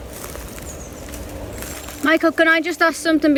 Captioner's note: birds chirping